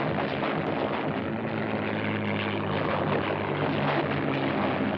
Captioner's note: airplane rumbling